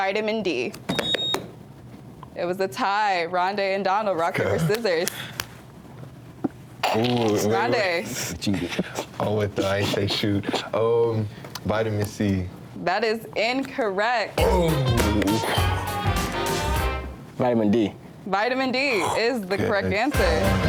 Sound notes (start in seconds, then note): 0.8 buzzer beeps; 5.3 hands slapping; 14.4 groans; 14.4 lively music